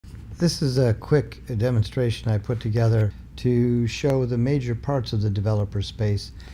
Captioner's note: talking